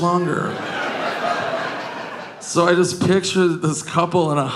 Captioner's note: audience laughing